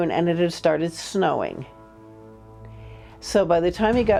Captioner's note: eerie horn sounding